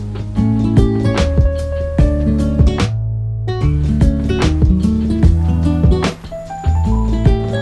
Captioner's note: nervous